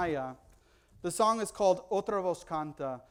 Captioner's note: foreign language